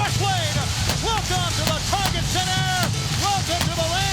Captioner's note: fireworks exploding